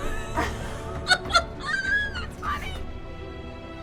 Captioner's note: crew laughing